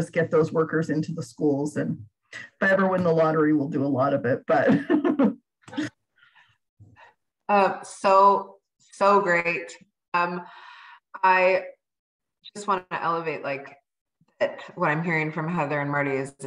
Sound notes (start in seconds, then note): 4.6 laugther